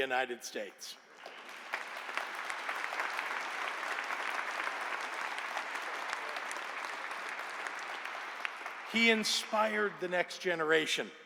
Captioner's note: applause